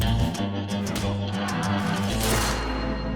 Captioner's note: crowd yelling